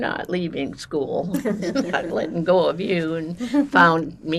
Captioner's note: laughing